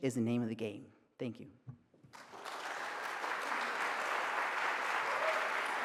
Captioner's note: audience applauds